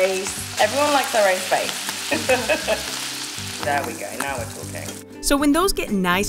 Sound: laughter

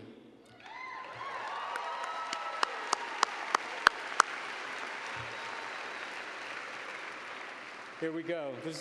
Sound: cheers and applause

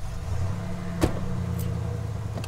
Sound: van door closes

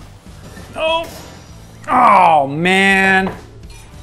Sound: grunting

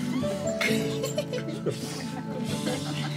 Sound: laughs

